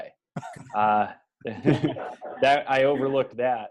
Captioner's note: laughing